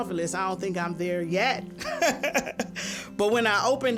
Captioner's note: laughs